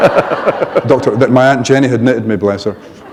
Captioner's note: laughter